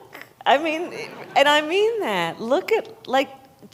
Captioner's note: laughter